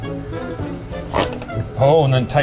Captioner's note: playful music continues; cord ripping